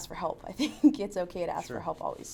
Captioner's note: laughs